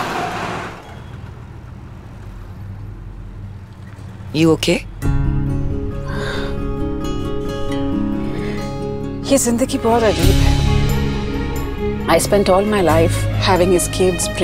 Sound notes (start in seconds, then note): 6.0 sighs